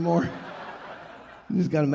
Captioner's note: audience laughing